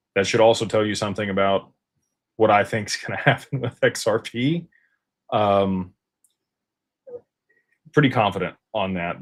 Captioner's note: laughter